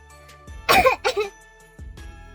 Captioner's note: kaszelek